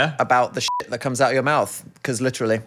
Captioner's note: beep